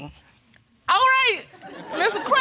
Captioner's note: audience laugh